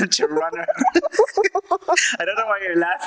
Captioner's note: laughs